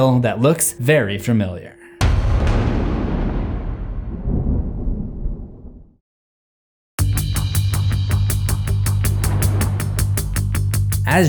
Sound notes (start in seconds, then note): 2.3 sinister music; 4.6 thunder rumbles; 7.0 sinister music; 9.1 thunder rumbles